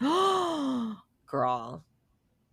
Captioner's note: gasps